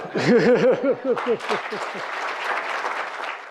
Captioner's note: applause